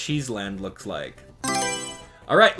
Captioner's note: Mario Selection Sound